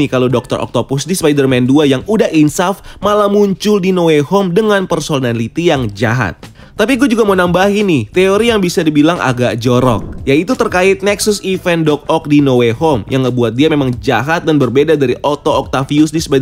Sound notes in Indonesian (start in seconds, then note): 9.8 suara transisi